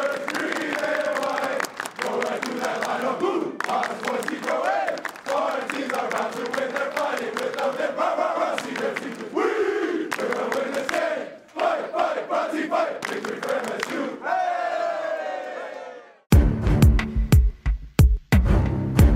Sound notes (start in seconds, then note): 14.3 team cheering; 16.3 edgy music